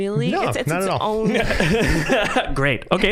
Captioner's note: all laughing